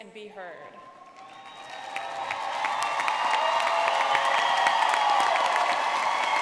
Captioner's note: audience clapping and cheering